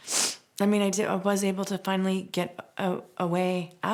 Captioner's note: sniffles